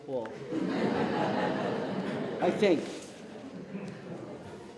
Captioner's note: laughter